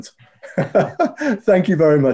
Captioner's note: laughs